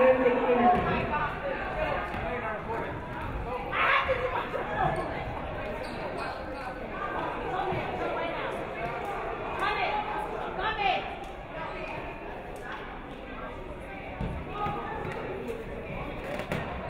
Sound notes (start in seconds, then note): 1.5 crowd chattering